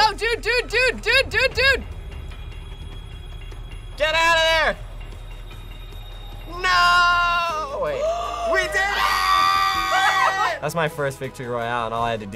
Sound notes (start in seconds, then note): 9.6 screams